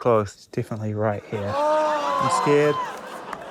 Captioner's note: cheers